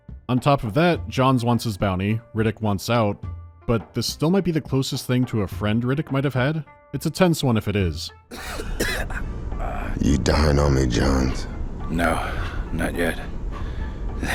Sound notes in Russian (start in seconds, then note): 8.3 Джонс кашляет